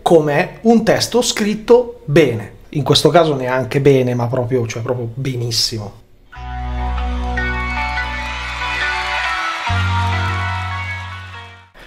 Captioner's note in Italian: Applauso